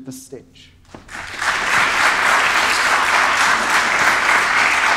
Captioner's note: audience members clap